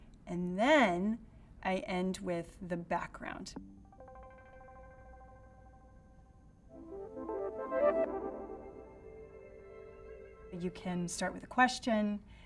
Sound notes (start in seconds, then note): 3.8 digital beeping; 6.7 uplifting music